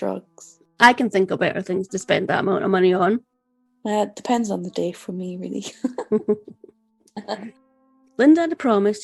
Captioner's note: laughter